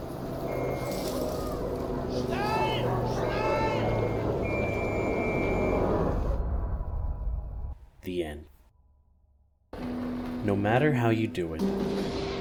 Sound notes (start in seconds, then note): 0.5 high pitched whistle!; 2.7 dogs barking. Sounds of engines